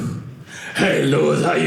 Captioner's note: deep voice